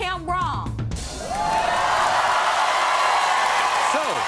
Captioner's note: audience cheering